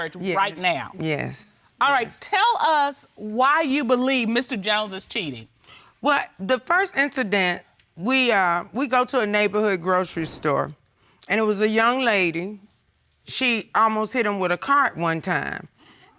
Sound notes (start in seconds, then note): none